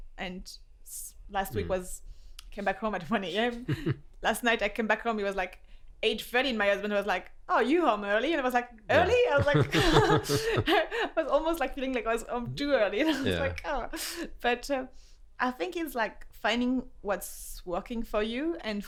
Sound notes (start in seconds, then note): 8.9 laughs